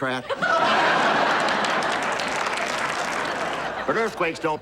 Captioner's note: audience laughing